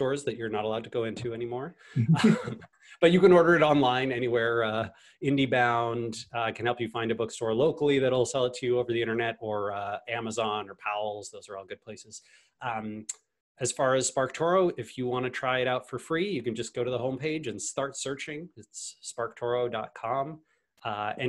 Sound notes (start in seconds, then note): 2.0 both laugh